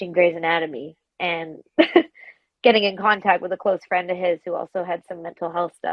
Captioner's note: laughs